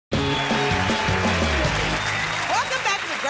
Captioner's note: cheers and applause